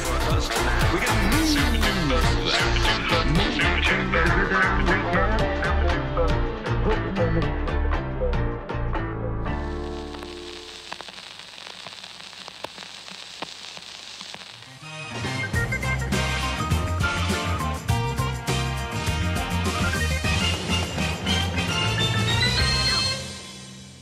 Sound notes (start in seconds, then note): 0.0 jazzy music playing; 9.6 sizzling sound of an old radio playing; 15.1 theme tune playing